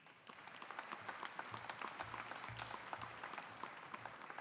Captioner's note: audience applauding